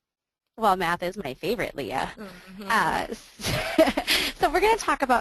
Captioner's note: laughs